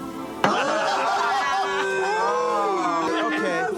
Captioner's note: crowd chattering